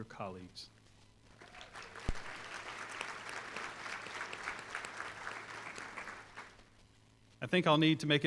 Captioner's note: applause